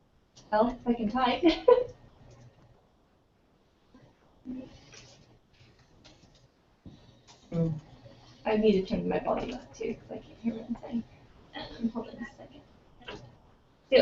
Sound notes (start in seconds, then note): 1.8 laugh